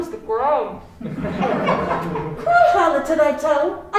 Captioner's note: crowd laughing